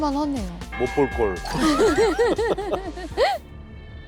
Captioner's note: laughing